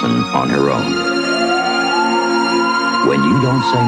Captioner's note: sirens